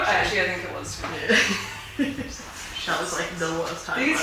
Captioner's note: laughs